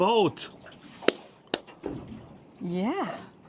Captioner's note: hands smacking